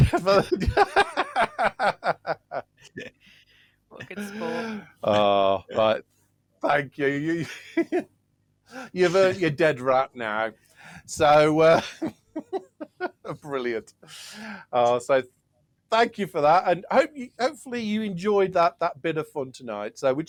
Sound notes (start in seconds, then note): 0.0 laughter; 7.0 laughter